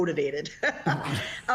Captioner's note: laughs